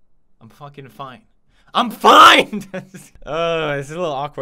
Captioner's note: laugh